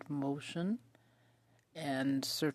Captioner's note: speaking French